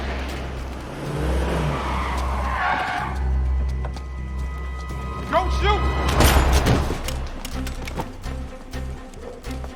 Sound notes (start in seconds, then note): 2.1 tires screeching